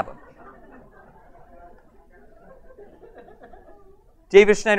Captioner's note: audience laughs